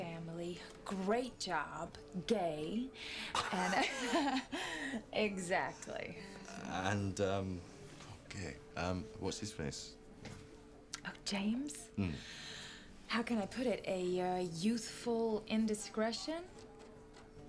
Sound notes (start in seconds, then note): 3.3 Kate laughs; 3.4 Rob laughs